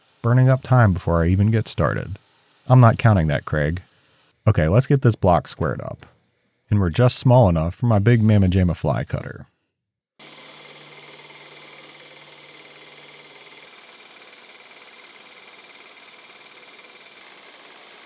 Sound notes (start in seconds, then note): 10.2 machine whirring and rattling